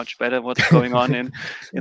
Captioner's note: laughing